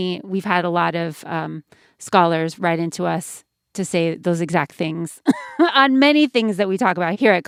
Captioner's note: laughter